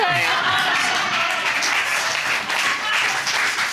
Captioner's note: audience laughing